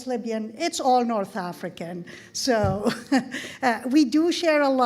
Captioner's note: laughs